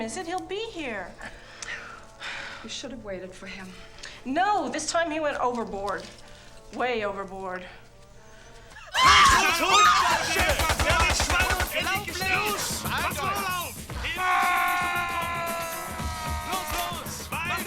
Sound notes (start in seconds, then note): 1.7 sighs; 11.0 speaking german